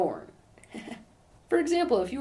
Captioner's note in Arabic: ضحك